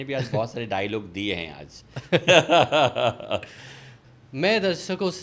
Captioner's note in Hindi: हंसी